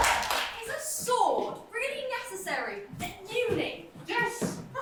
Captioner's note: audience cheering